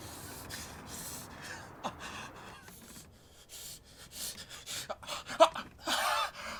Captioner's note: breathing and gasping heavily